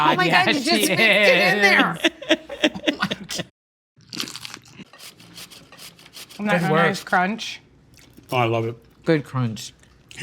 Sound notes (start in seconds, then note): 2.8 laughing; 4.0 latke crunches